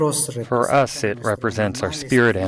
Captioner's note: through translator